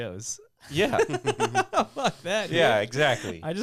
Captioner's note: laughing